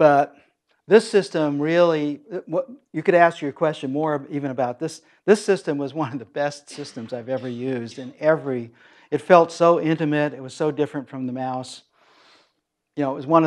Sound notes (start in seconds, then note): 6.6 laugh